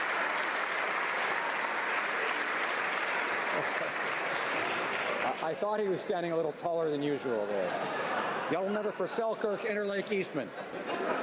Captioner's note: applause